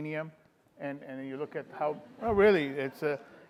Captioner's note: audience laughing